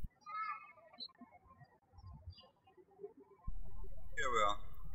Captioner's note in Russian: птички щебечут